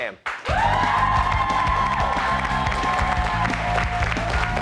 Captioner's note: cheers and applause